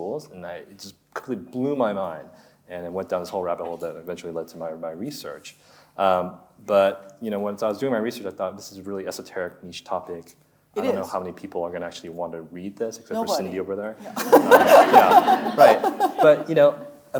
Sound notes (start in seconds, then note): 14.0 audience laughing; 14.1 laughing